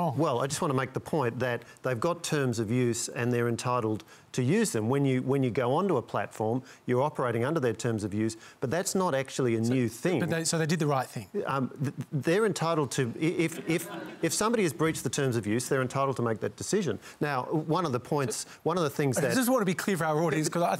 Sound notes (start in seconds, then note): 13.4 laughter